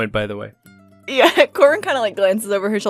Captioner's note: laughs